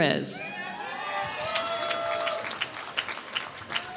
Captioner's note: applause